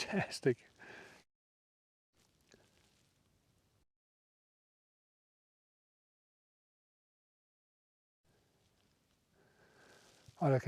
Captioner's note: silence